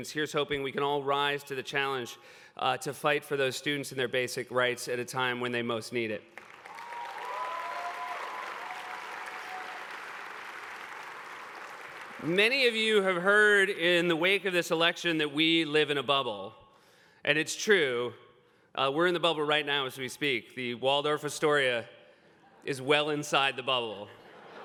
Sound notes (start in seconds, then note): 6.3 applause